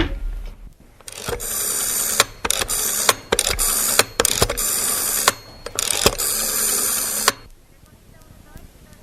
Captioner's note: tone of a rotary phone - dialing the number